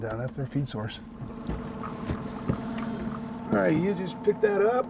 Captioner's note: boat engine idling